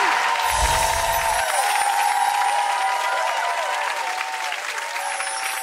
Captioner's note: audience cheering and applauding